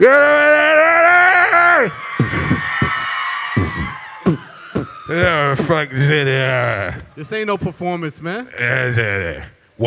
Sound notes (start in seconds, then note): 0.1 yelling; 2.3 beatboxing